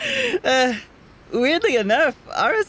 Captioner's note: laughs; sighs